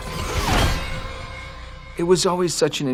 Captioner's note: shield clangs